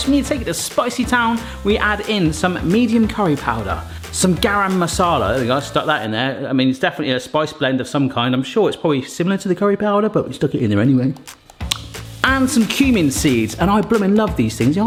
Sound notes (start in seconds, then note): 11.2 smacks lips